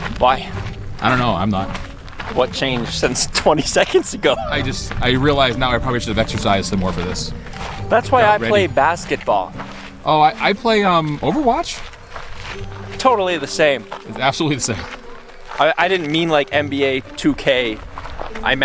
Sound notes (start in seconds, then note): 3.9 laughing